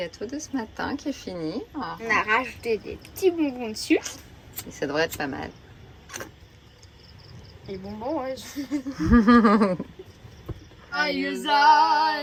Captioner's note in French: rires